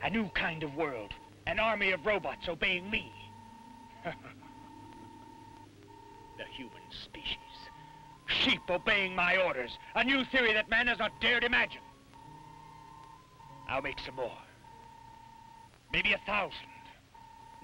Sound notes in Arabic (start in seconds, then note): 3.9 كروب يضحك